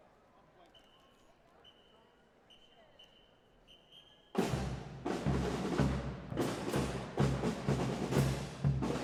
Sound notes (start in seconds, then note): 0.9 whistle tooting; 4.4 festive percussion music